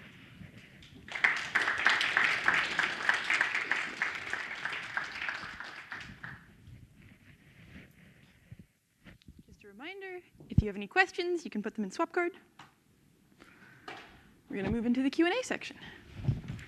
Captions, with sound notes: Thank you. (crowd applauds) - Just a reminder, if you have any questions you can put them in Swapcard. We're gonna move into the Q and A section.